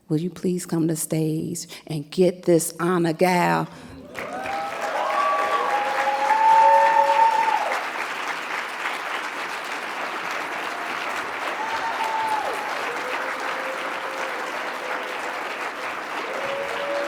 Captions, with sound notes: Will you please come to stage and get this honor, gal? (audience cheering and clapping)